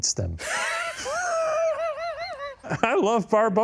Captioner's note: both laughing